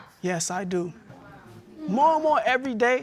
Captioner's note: audience exclaims